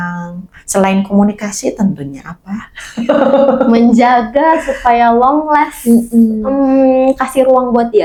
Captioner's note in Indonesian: tertawa